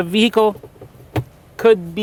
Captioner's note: thud